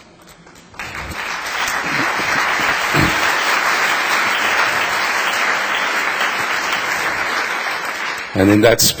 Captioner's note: applause